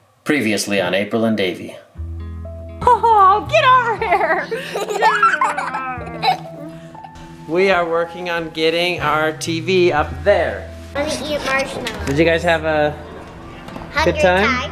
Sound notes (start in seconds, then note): 3.8 giggles